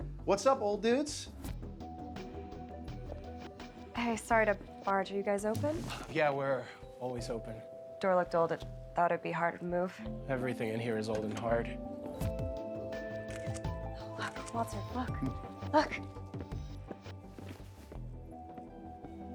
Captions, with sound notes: What's up, old dudes? - Hey, sorry to barge. Are you guys open? - Yeah, we're always open - Door looked old. It thought it'd be hard to move. - Everything in here is old and hard. (camera snapping) - What the fuck? Look.